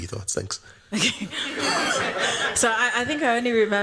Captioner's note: laughter